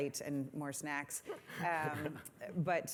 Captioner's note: laughter